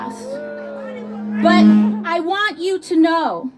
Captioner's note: sound system feedback